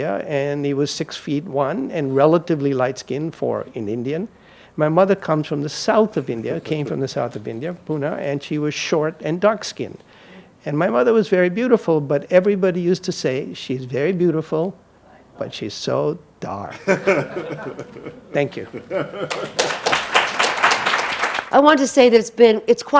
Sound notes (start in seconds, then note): 16.8 audience laughing; 18.6 audience applauding; 19.4 laughing